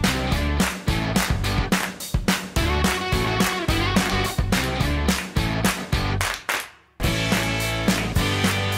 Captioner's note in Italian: Applauso